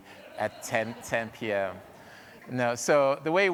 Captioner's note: audience laughing